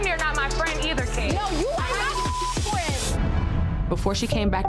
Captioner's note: beep